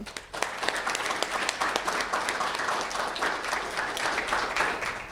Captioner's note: audience applauding